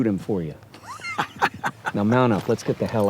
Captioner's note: laughs